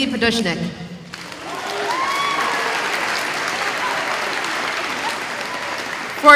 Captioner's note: applause